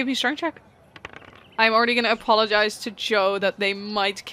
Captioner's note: dice clacks